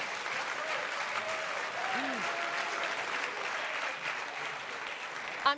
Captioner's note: applause